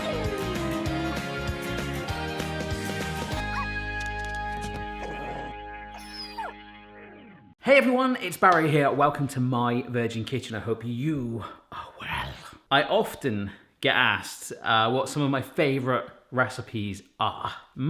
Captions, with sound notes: (dog whines) (dog barks) (whines) - Hey everyone, it's Barry here. Welcome to My Virgin Kitchen. I hope you are well. I often get asked what some of my favourite recipes are.